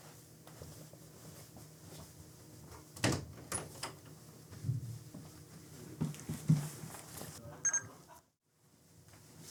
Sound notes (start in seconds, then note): 7.6 bebeep